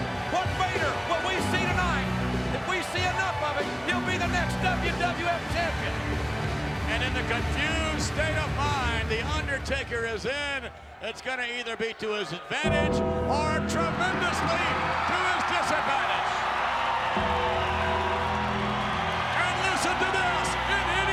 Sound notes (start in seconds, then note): 16.2 crowd cheering; 16.2 sinister music